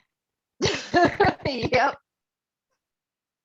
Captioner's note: laughter